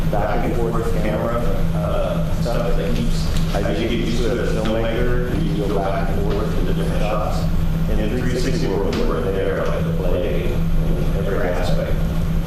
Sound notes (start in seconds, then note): 3.3 snaps